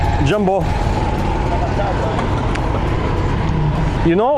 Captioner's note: engine sound